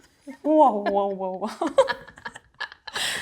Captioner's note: laughing